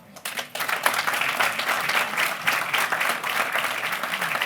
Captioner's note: applause